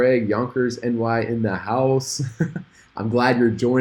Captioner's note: laughs